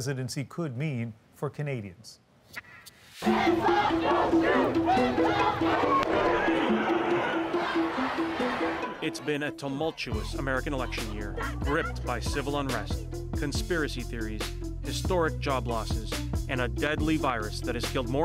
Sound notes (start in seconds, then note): 5.4 chanting